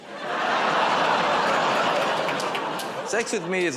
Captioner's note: audience "Oh"s